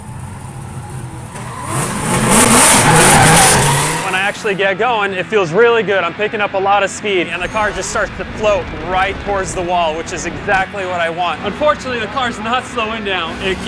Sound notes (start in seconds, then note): 1.7 engines revving; 1.7 tires squealing